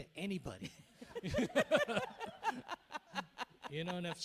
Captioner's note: group laughing